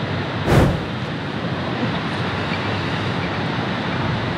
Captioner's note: air whooshing